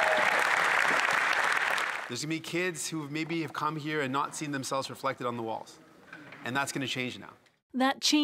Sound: applause

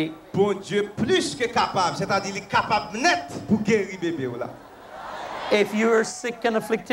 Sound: crowd cheers

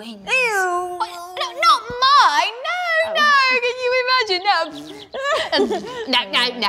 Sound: fart noises

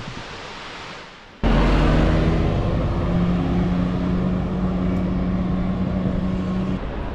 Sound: bus noise fading into the distance

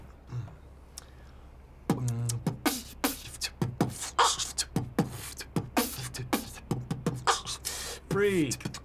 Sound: beatboxing

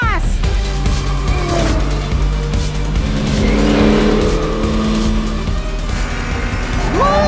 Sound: engines revving; exciting music

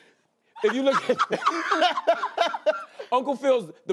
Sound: laughter

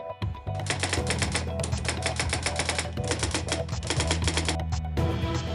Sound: typewriter keys clacking; upbeat, dark dramatic synthesizer music

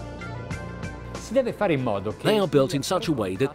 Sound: speaking in foreign language

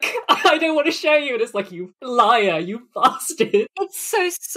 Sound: laughing

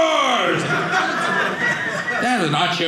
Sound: audience laughing

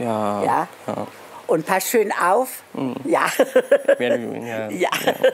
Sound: laughs

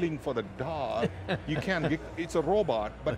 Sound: laughs

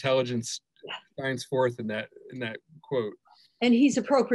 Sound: murmurs

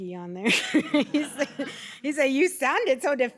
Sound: laughter

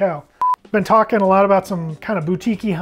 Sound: timer beeping

